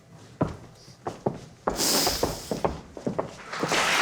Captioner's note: footsteps clomping; Bassanio heavily sniffs; audience applauding